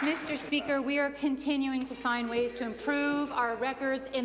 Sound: applause

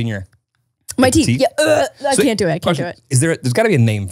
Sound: gags

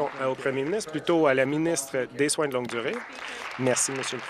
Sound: applause

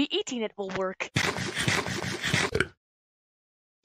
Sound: munching Noises

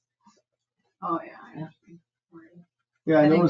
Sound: speaks distantly

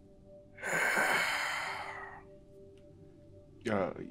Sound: breathing in heavily

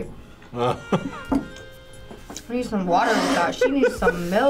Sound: laughs

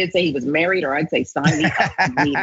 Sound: laugh

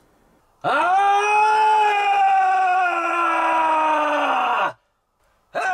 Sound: howling; intense howling

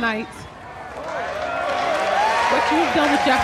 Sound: cheers and applause

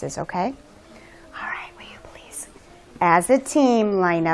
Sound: whispering

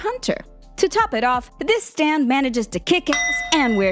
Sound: beep

